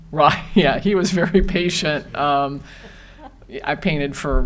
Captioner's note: laughs